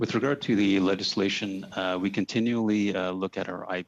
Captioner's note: speaking French